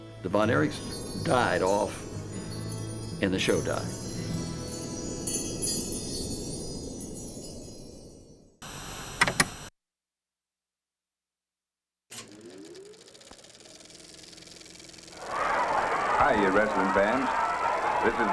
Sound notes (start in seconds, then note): 15.0 crowd cheering